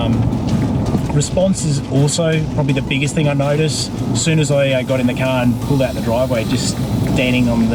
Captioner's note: engine